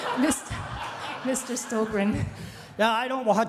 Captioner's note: everyone laughing